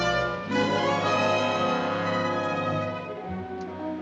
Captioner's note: none